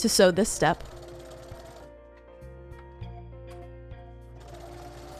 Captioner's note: sewing machine whirring